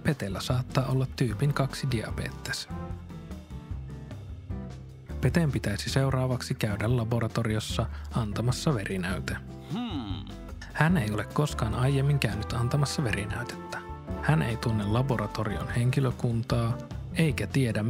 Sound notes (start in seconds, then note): 9.6 Hmm-ääni